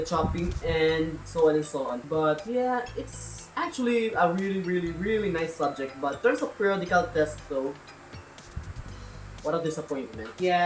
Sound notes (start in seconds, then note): none